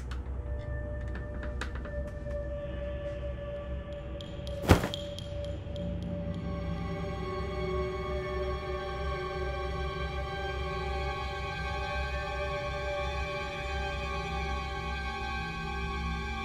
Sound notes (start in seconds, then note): 0.1 ominous music; 4.6 something falls over; 6.3 suspenseful music